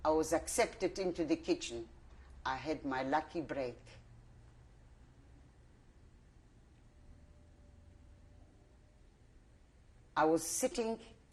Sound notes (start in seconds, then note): 4.0 pauses for 6 seconds